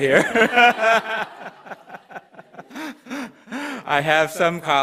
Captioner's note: audience laughter